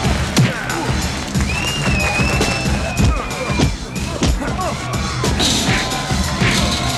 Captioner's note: blows thudding; crowd cheering